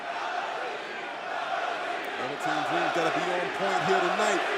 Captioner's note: crowd cheering